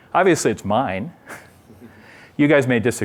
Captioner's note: laughter